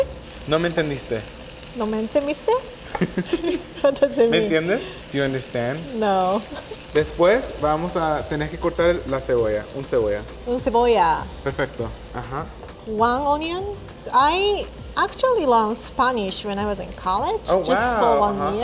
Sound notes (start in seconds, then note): 0.1 speaking Spanish; 7.0 speaking Spanish